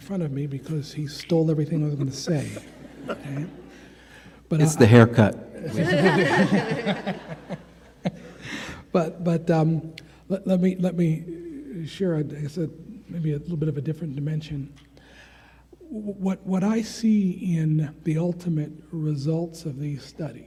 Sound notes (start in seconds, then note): 2.0 attendees laughing; 5.6 attendees and presenters laughing